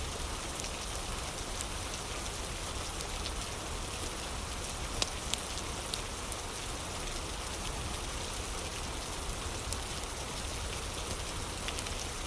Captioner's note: fire crackling